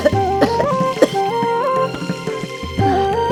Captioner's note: coughs